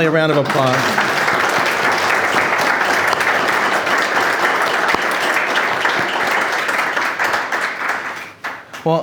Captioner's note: applause